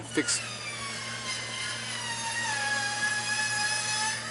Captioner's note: machine whining